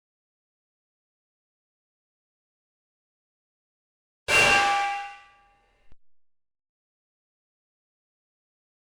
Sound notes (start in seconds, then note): 4.3 ding